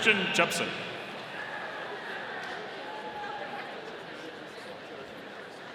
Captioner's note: audience cheering